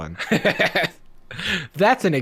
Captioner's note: laughing